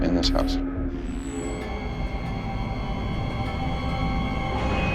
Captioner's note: eerie sounds